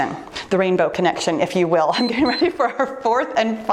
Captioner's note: timer beeps